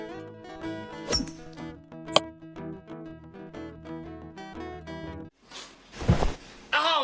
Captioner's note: golf ball thudding; golf club clinking